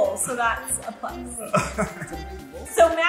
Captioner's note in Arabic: يضحك